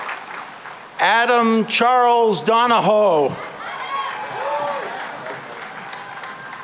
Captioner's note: cheering and applause